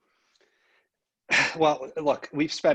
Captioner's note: sigh